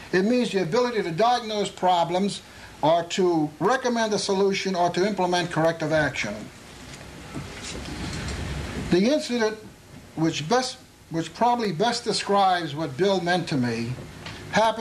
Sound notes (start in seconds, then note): none